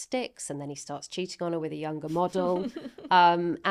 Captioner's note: laughing